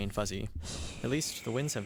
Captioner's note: wind blows